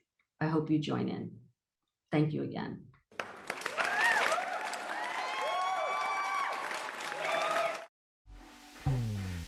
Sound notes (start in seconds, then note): 3.1 applause and cheers